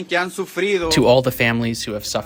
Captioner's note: through translator